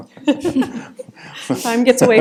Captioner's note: chuckles